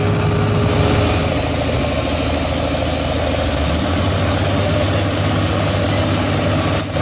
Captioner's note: excavator Engine Sound